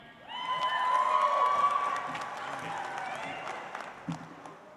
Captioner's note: audience applauds